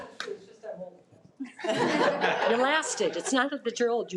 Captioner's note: participants laughing